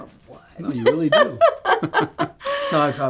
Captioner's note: Betty laughs